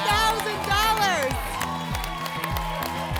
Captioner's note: applause and cheering